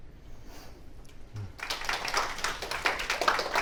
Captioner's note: applause